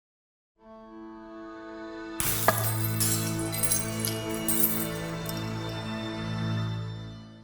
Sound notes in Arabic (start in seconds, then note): 2.2 تحطم الزجاج